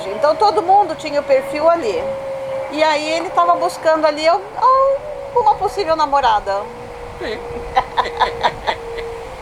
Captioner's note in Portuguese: risos